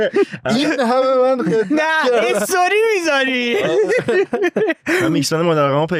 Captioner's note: laughs